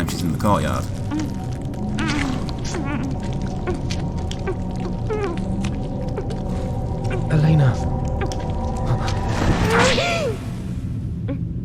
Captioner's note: in-game audio